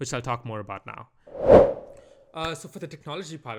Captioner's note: transition whoosh